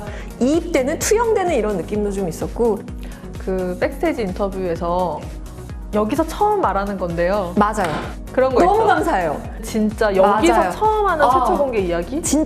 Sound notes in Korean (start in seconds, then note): 7.7 쾅!